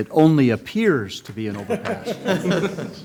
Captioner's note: laughter